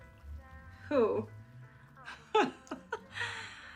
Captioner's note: laughs